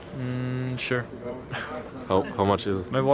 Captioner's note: laughs